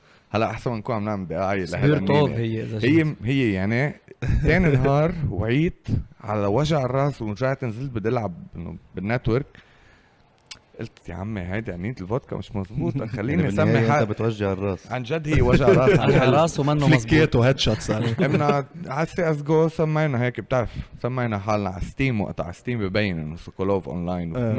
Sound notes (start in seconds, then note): 15.3 laughs